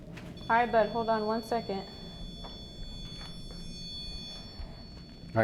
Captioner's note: REM pod beeps